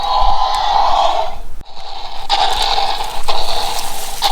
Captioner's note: dinosaur roaring